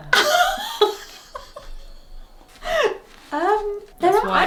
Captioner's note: laughs